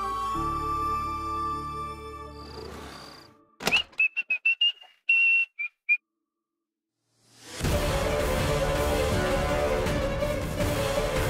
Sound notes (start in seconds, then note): 3.6 whistling; 7.5 pensive music playing